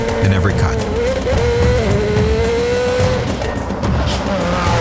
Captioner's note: car engine revving